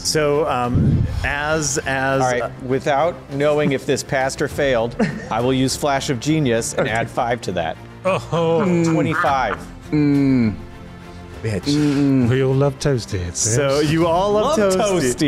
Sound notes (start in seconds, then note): 9.7 kinda "Mhmmm's"